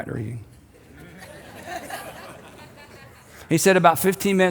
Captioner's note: crowd laughing